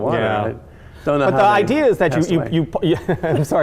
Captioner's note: laughing